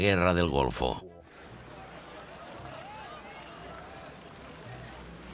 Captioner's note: loud chatter